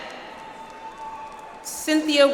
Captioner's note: audience applauds